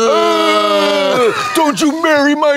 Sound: blonde Women yowl

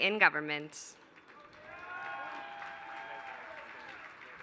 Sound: applause

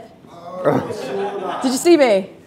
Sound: other chattering

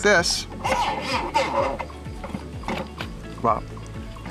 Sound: metal spinning

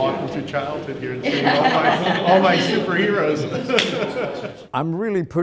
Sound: background laughter; laughter

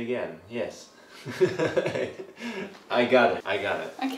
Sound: laughs

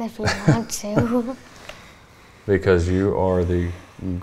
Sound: chuckling

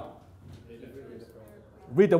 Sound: audience chattering

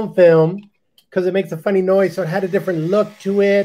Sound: camera recording

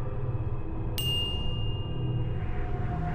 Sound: ding

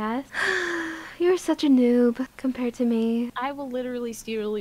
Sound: sighs

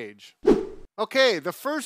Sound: swift whooshing

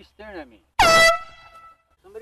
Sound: airhorn goes off

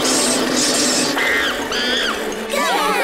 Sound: monkey noises; cheering

